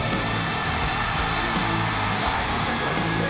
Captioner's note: audience continues cheering